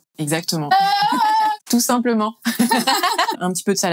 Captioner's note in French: rires